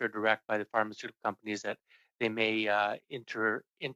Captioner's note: speaking French